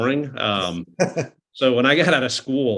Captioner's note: laughing